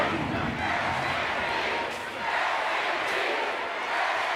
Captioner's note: crowd cheering